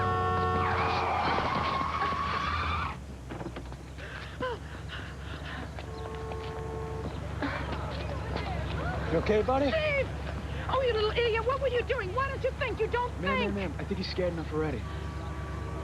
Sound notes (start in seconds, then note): 0.0 tires screeching; 4.9 panting